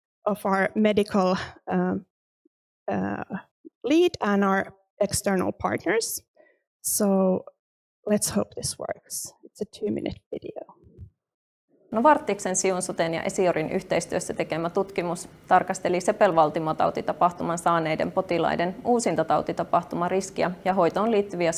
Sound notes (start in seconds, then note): 10.9 speaking in foreign language